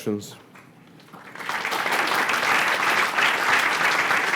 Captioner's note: applause